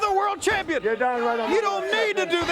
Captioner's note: crowd cheering